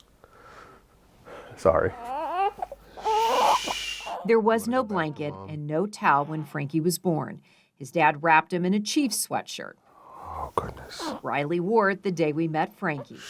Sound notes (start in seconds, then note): 0.3 exhales deeply; 1.9 cries; 3.3 shushing